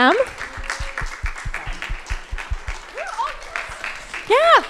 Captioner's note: crowd applauding